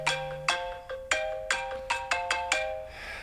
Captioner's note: phone jingle